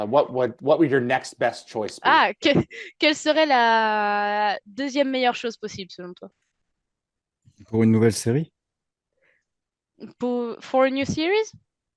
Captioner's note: translating from French